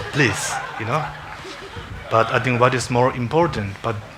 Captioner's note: congregation laughing